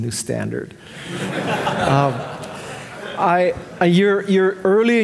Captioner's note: audience laughing